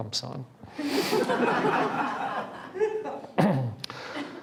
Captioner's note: laughing